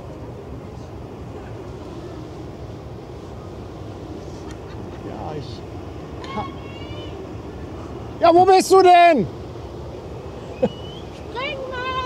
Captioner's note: she laughs